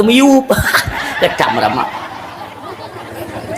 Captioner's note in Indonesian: tertawa